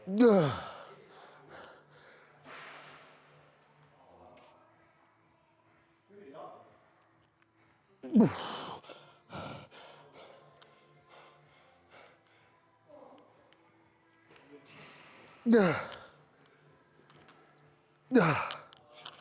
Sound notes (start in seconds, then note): 0.0 grunting; 3.3 grunting; 3.3 panting; 15.4 grunting